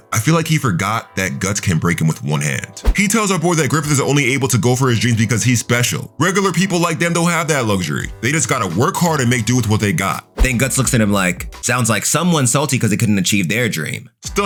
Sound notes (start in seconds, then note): 2.8 air whooshing; 10.3 air whooshing